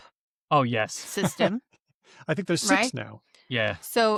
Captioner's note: laughs